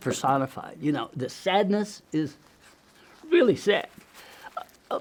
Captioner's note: weeps